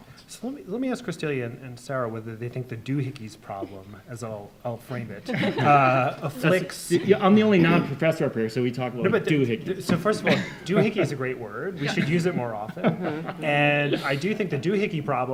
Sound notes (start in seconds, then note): 5.3 everyone chuckling; 11.8 chuckling